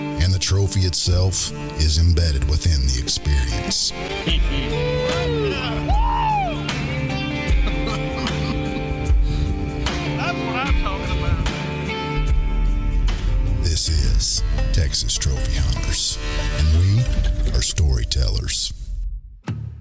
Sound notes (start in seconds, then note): 4.8 cheers; 8.0 laughs